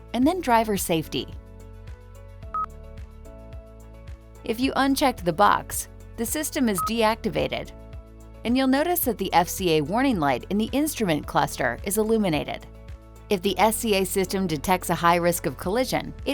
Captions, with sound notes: and then driver safety. (screen beeps) If you unchecked the box, the system is deactivated and you'll notice that the FCA warning light in the instrument cluster is illuminated. If the FCA system detects a high risk of collision,